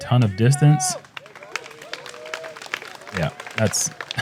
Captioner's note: crowd clapping